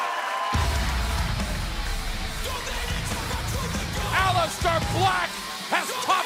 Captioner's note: crowd cheering